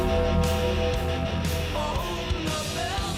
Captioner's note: bell clanging